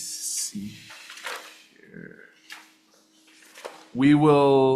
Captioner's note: pages flipping